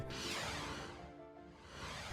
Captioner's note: logo whooshing